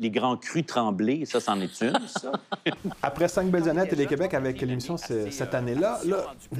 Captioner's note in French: rires